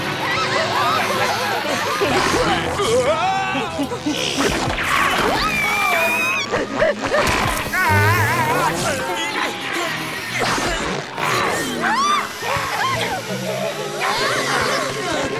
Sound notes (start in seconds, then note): 0.1 screaming; 8.8 grunting; 11.1 screaming